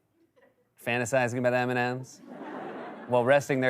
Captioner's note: laughter